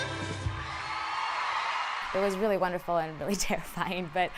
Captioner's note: audience cheers